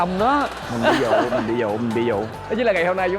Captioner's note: laughing